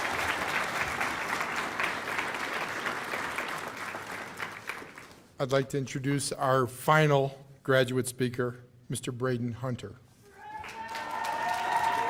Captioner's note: cheers and applause